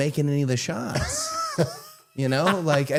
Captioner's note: Matt laughing